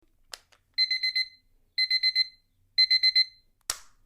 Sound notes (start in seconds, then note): 0.0 alarm Clock